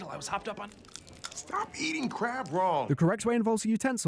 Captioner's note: weird crunching